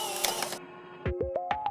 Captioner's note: camera clicks